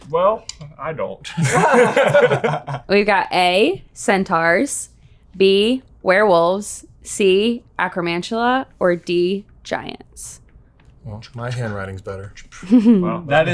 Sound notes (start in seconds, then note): 1.2 all laughing